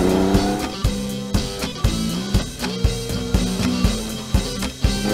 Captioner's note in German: aufregende Musik; Uhr tickt